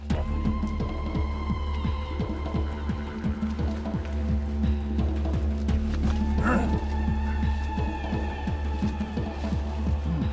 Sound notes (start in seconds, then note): 0.2 tribal music; 6.3 grunts